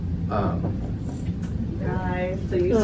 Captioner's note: knock on door